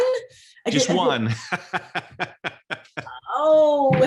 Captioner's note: laughs